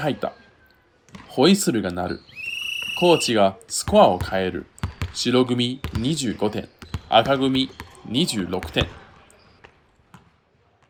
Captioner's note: The whistle blows. Coach changes the score to White 25, Red 26